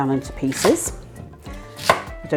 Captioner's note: chop chop chop